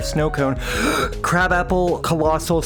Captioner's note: large breath